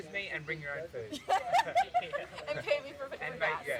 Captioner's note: woman laughs